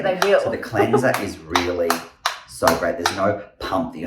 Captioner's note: lid clicking